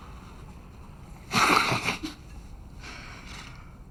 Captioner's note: laughs